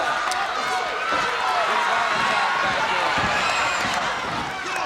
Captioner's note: audience cheers